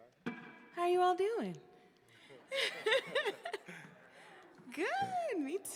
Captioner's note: giggling